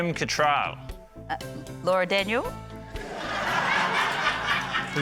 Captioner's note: laughter